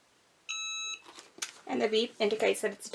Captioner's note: EasyPress beeping